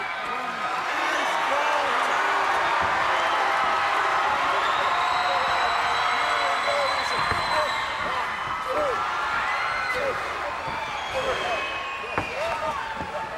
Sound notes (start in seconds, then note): 1.0 crowd cheers; 6.2 crowd cheers